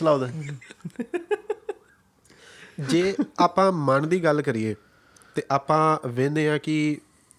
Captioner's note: laughter